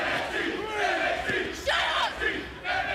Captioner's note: fans chanting